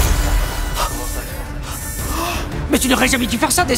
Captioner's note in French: alarme